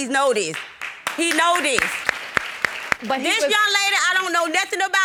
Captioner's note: audience applauds